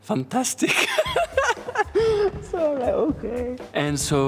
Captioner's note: laughing